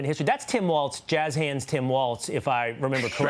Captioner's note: laughter